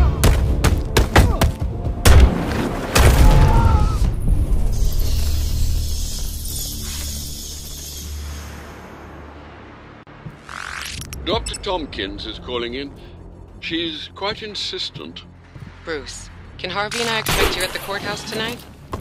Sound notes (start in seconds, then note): 0.2 punches landing; 4.7 bats squeaking; 10.5 electronics beeping